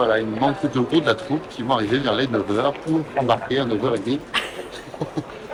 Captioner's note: laughs